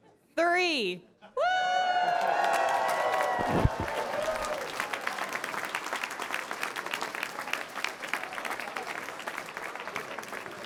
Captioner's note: applause